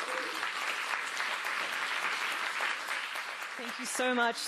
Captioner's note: applause